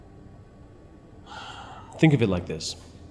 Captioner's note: Pastor Luis sighs